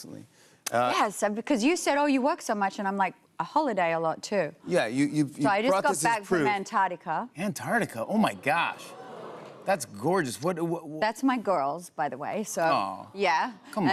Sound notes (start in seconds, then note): 8.3 audience oohs